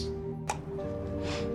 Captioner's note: bottle pops open; Philip sniffs